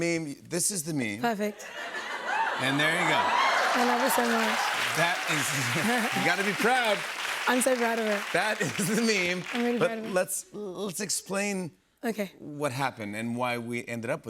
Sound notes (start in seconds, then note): 1.6 laughter; 3.5 cheers and applause